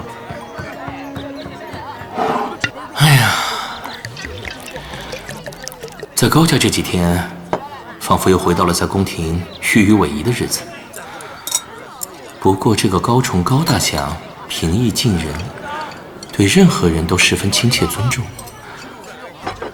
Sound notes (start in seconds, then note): 2.9 sigh